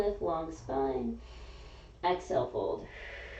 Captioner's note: exhaling; inhaling